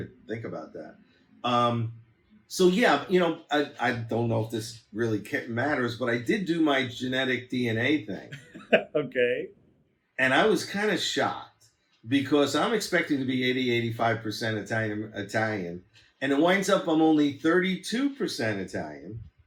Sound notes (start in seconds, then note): 8.2 laughs